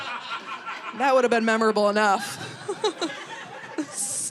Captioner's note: laughs